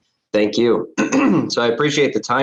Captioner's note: coughs